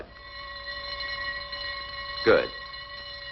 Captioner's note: bell ringing